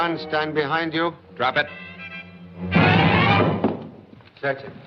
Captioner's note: gun Hits Floor